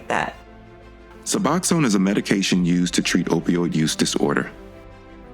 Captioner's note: voiceover